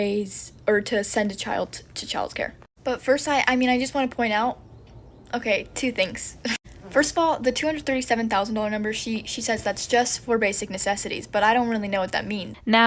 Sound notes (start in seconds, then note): 6.3 laughs